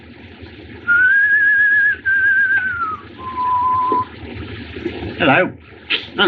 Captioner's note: whistling